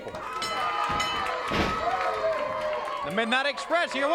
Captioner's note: hand slapping; bell dinging